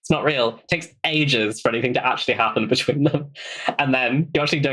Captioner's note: laughs